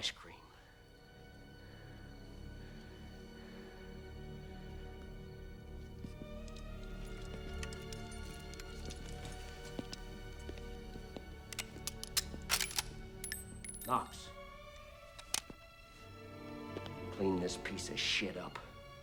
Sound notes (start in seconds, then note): 11.4 gun clicks; 11.4 shell clinking